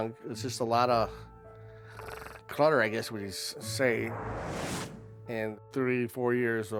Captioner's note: snorts